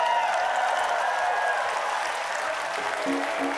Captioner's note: cheers and applause